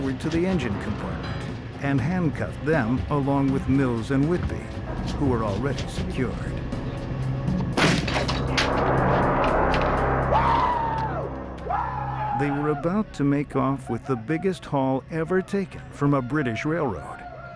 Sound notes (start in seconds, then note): 7.6 door breaking; 10.0 shrieking